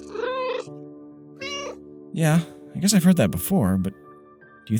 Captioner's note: meow